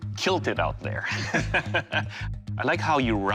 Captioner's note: laughing